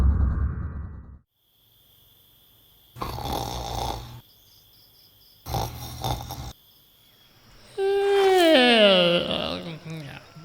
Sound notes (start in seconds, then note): 3.0 snoring; 7.7 yawns